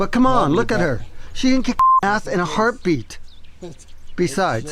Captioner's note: beep